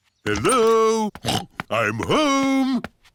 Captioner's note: snorts